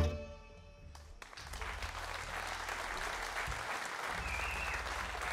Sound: audience applauding

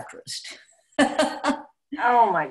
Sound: laughing

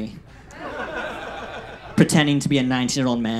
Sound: audience laughs

